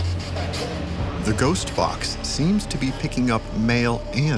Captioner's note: voiceover